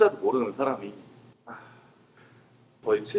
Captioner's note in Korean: 한숨